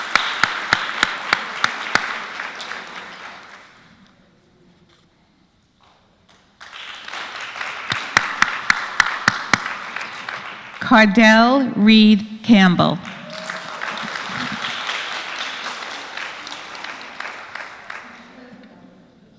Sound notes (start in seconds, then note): 0.0 applause; 6.2 applause; 12.9 applause